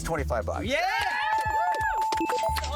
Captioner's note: bells ringing